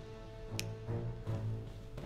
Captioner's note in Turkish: Parmak şaklatma sesi